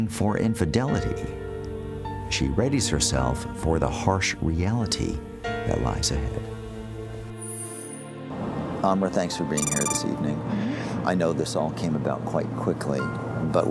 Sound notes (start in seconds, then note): none